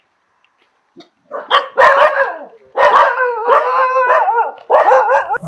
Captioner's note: dogs barking